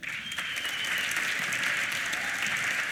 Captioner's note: applause